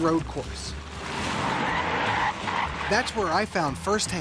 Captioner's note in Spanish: neumáticos chillando